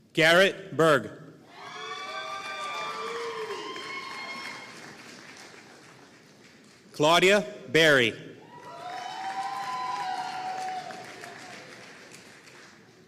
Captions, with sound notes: Garrett Berg (audience cheering and applauding) Claudia Berry (audience cheering and applauding)